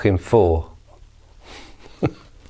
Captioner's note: giggling